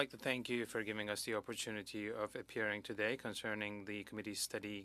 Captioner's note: speaking French